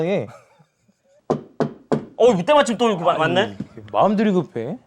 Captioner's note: hesitant knock